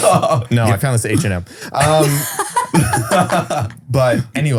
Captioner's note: all laughing